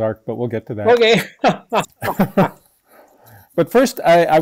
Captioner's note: both laugh